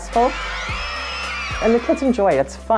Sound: cheering

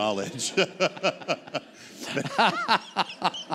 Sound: laughter

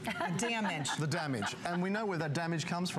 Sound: laughter

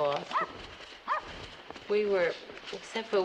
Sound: dog barks

